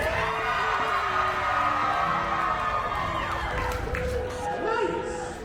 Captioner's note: applause